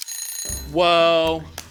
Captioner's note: alarm ringing